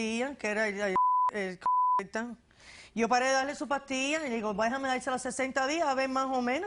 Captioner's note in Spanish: Bip